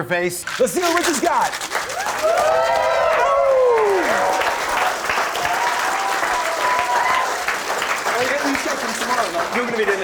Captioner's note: applause; cheering